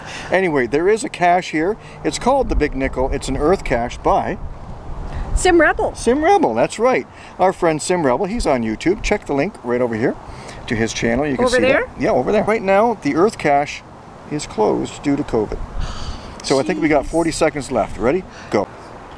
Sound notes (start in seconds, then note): 15.8 heavy sigh